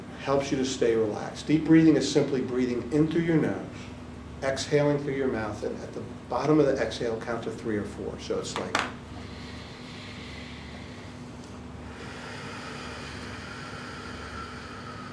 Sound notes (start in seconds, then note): 9.0 inhales; 12.8 exhales